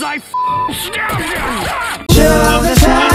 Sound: stabbing Sounds

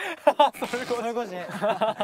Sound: cracking up

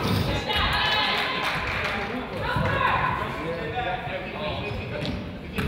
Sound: coach yells

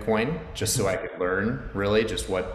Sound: chuckles

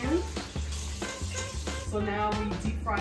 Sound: shrimp sizzles

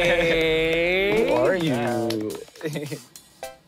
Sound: campers clapping; chuckles

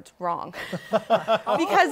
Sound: laughter

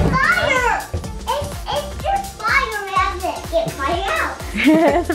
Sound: girls carry on being excited

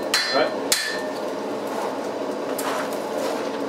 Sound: hammering

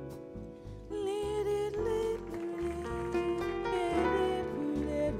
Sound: vocalizing

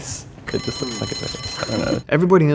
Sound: buzzer chimes

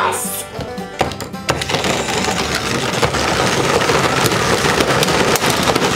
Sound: trucks rumble

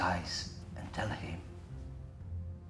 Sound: none

